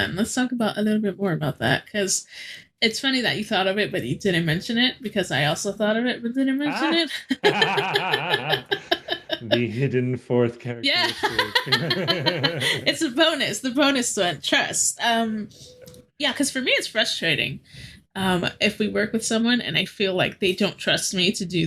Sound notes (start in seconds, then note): 6.6 laughing